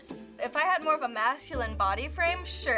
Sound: none

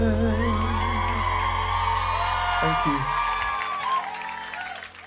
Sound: crowd cheers

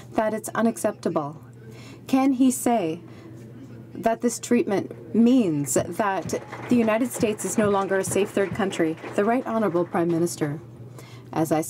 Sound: some Applause

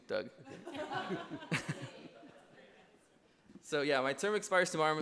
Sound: laughter

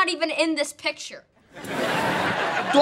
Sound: crowd laughing

